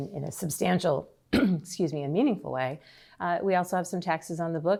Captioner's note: clears throat